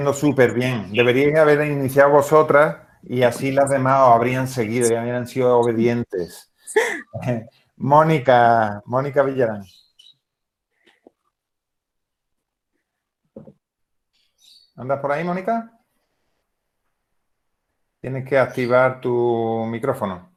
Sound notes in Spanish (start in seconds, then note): 6.7 risas